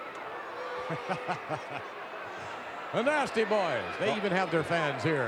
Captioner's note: laughs